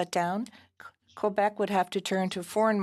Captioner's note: speaking French